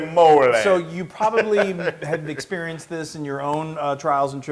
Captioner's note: laugh